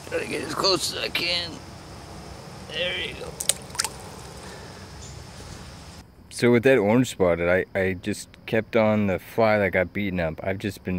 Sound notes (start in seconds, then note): 3.1 water splash